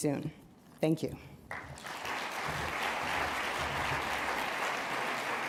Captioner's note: applause